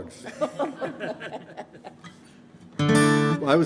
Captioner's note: band members laughing; guitar strumming